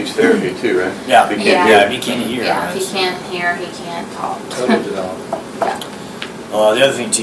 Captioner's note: laughs